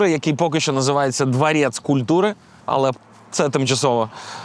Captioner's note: in russian